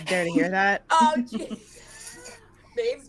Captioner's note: laughing